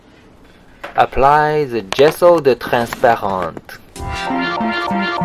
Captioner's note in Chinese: 假法语